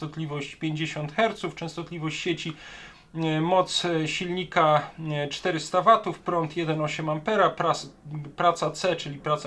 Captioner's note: mains frequency